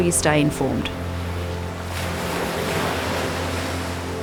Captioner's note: waves crashing